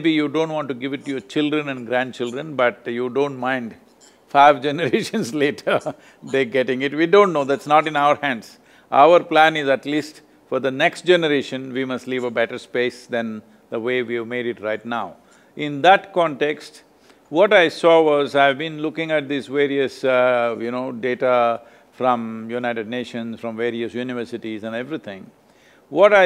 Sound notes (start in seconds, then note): 5.1 laughs